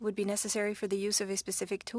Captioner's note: speaking French